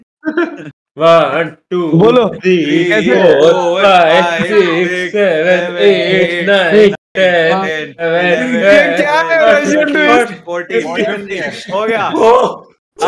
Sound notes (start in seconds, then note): 5.2 everyone counting